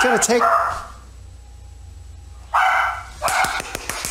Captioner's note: dog barking; man clapping